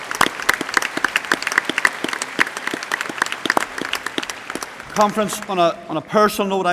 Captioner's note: applause